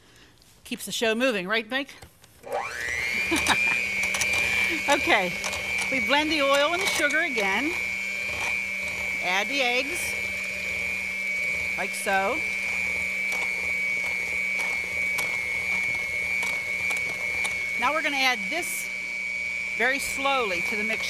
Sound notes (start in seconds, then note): 2.1 mixer hums; 3.1 laughs